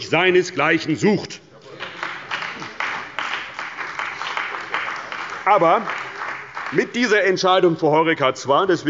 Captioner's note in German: Beifall bei der CDU und dem BÜNDNIS 90/DIE GRÜNEN